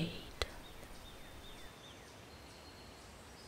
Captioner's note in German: Vogelgesang